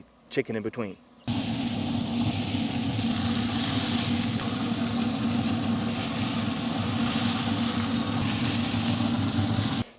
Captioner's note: chicken Smoking and Sizzling